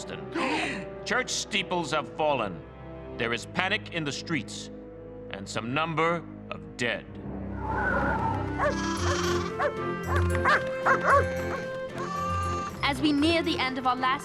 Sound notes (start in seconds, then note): 10.4 barking